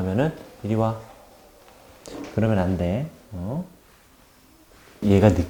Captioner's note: patting